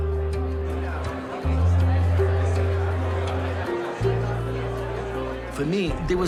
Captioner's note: people talking in background